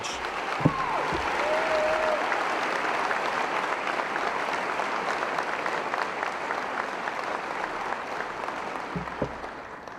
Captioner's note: applause